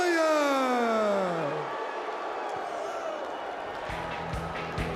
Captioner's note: crowd cheering